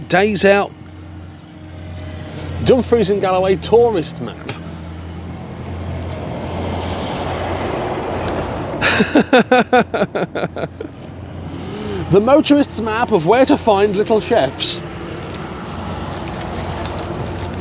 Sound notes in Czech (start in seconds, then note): 4.2 smích